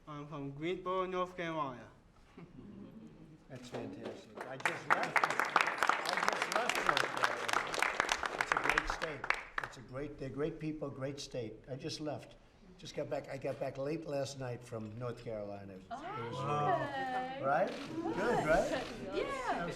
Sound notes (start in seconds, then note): 3.8 applause